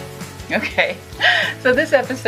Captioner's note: she laughs